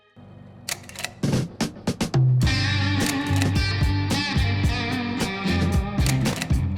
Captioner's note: slide reel clicking; upbeat rock music